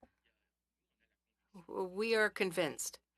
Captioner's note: speaking French